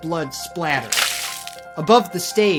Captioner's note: blood splatters